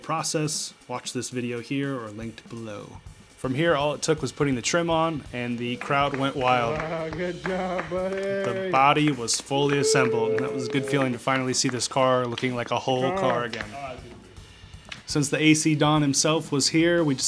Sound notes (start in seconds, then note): 6.8 crowd going wild